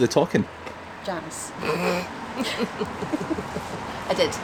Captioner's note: Janice laughs